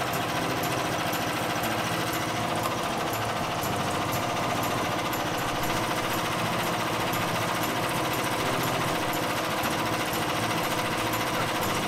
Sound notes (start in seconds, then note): 5.2 motor idles